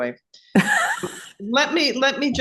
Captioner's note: laughs